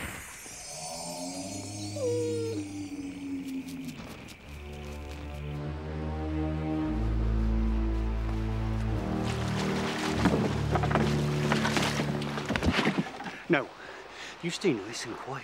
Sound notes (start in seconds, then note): 0.5 dog whining; 4.4 suspenseful music; 8.8 water splashing